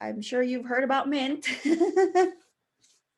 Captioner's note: chuckle